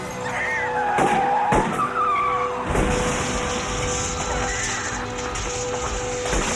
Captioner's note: tires screeches; woman screams